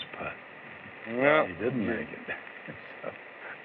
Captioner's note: chuckles